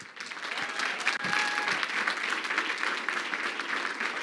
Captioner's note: crowd clapping